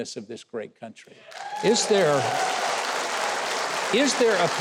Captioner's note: audience applauding